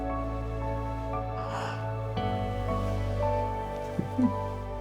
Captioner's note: Florio exhales; Jesse chuckles almost silently